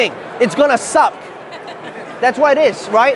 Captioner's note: laughing